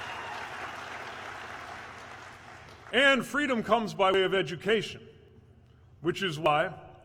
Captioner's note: applause